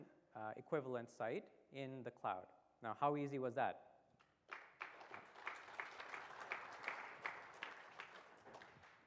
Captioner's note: applause